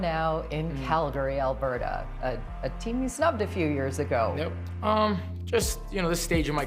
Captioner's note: cheering and Applause